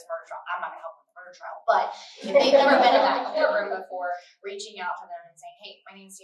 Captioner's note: laughter